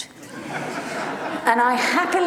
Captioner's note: audience laughs